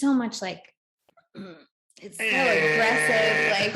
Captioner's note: makes alarm blaring noise to signify rejecting this lesson